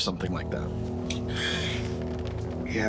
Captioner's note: smacks lips and sighs